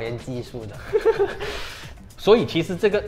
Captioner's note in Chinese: 淫荡地笑